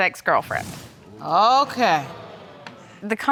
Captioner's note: audience groans